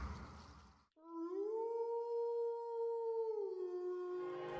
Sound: wolf Howling

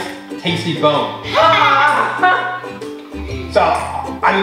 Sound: laughing

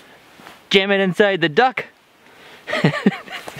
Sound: laughing

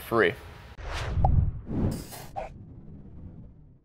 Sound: air whooshing

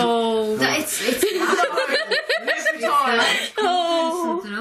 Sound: laughing

